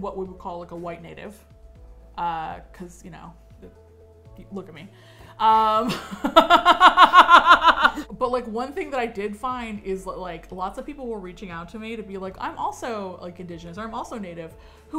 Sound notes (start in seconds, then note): 5.6 both laugh